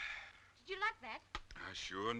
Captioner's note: Joe exhaling